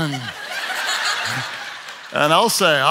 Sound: audience laughs

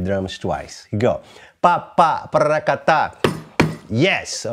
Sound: vocalizes rhythm

